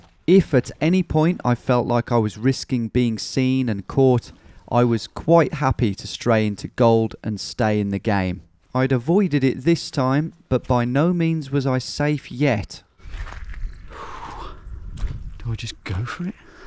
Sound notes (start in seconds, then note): 13.9 sighs